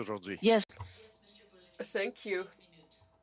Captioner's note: speaking French